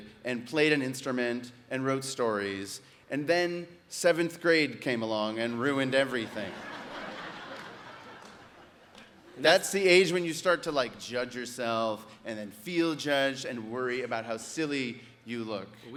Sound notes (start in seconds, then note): 6.0 audience laughs